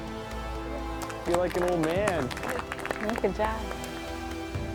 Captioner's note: everyone applauds